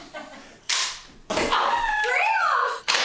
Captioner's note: nail banging